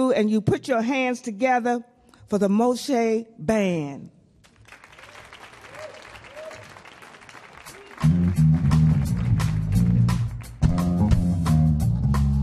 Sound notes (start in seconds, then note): 4.4 audience clapping; 4.8 audience cheering